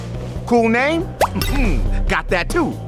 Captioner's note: graphic booming